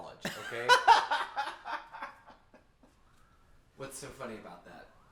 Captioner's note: Anubis laughing